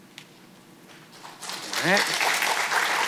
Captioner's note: audience clapping